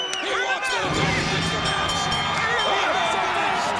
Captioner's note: bell ringing